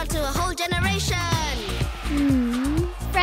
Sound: cheering

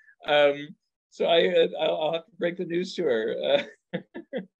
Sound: laughs

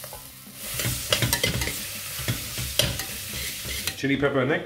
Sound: butter sizzling

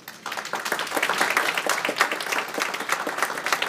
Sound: applause

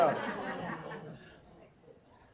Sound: laughter

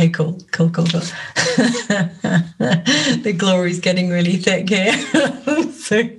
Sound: laughs

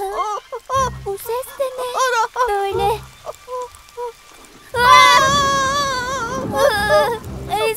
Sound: sounds of fearing

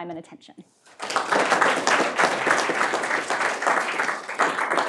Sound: audience applauding

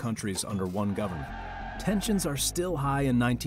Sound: cheering

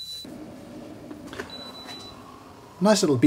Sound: kettle beeps

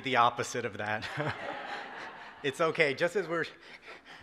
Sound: audience laughs

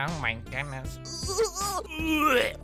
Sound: gagging

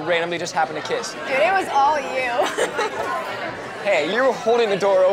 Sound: laughs

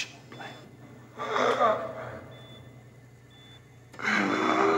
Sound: Donald gasps

